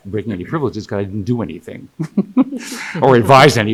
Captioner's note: laughing